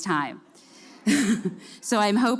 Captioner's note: chuckles